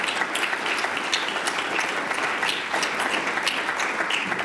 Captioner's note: applause